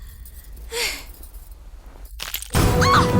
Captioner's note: gasps; yells in pain